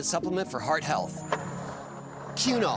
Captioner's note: skateboard wheels roaring